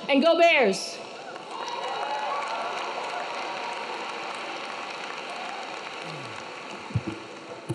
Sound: audience clapping; audience cheering

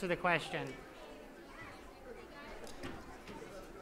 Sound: chattering

